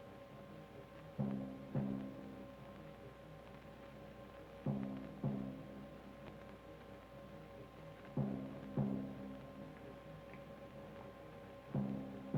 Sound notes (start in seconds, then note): none